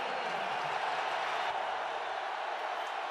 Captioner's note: crowd cheering